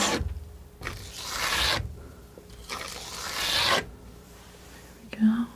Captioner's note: scratching